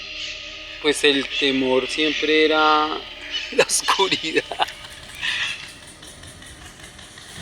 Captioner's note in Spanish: risas